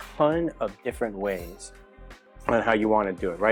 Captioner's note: cutlery skimming